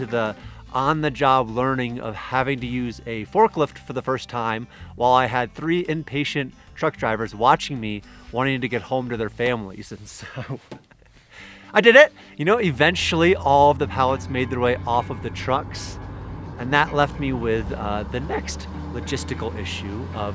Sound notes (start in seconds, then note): 10.2 laughing